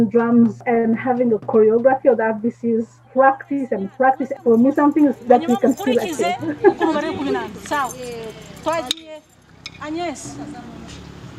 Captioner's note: laughs